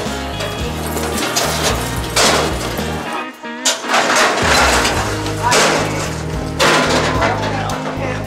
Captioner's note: metal gates bang